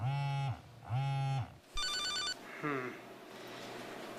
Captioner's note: phone buzz